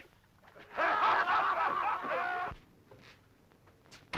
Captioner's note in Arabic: الرجال يضحكون